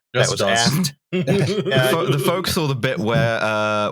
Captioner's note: laughter